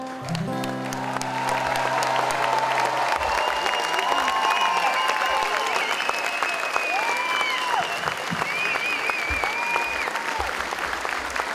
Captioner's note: applause